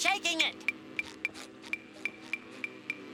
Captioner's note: ticking; ticking, light buzzing